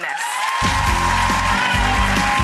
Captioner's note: crowd cheers and applauds; upbeat music